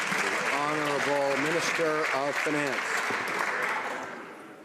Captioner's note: some Applause